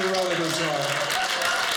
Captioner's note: audience cheering